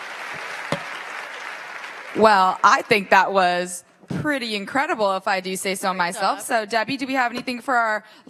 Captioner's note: applause